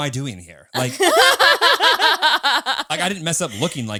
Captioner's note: all laughing